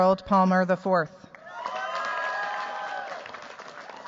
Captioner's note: cheers, applause